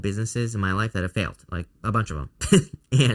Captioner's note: chuckles